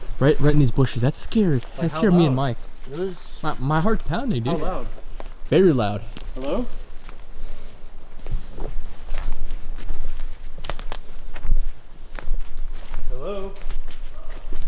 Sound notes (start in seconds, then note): 8.4 footsteps pattering; 8.4 twigs snapping